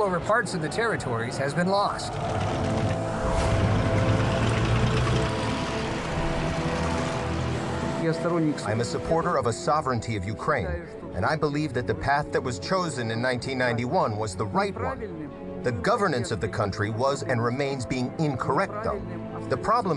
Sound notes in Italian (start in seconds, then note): 13.6 parla una lingua straniera